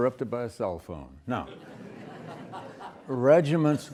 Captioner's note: students laughing